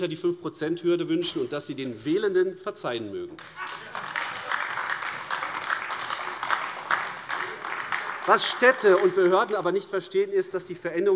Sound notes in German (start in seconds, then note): 3.4 Heiterkeit und lebhafter Beifall AfD